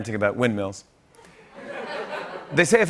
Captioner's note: laughter